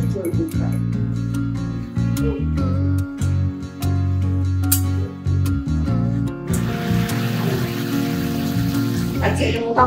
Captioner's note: cooking sound